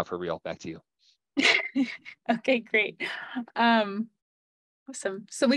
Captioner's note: laughs